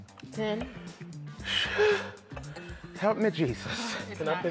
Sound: heavy exhaling

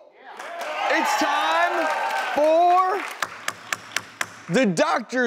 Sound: audience cheers; hitting hammer

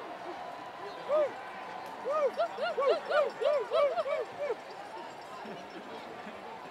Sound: laugh; applause

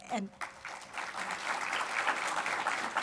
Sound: applause

